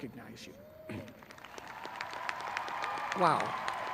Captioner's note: graduates cheering